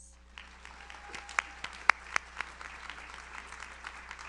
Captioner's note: audience applauds